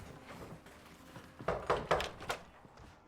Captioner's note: llaman a la puerta